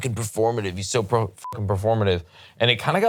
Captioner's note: beep